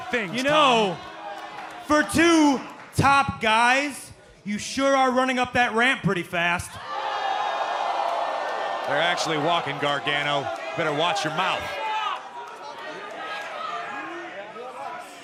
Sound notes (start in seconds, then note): 6.9 crowd cheering